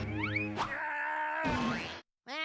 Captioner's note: yelling